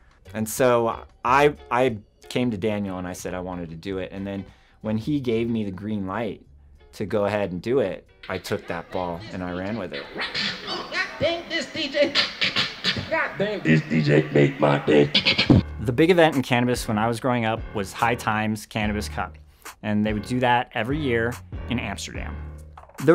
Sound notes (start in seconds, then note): 10.1 beatboxing; 12.1 beatboxing; 14.9 beat boxing